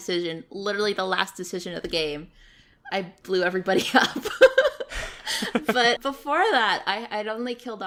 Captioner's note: laughs